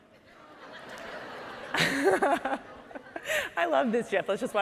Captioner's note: audience laughing